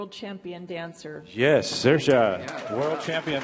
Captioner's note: audience applauding